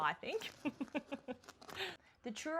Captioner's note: laughs